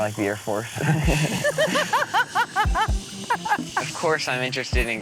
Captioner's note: laughter